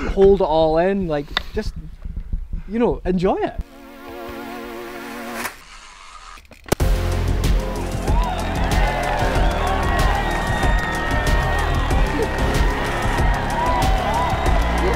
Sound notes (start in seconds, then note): 4.9 electronic beat music; 7.6 cheering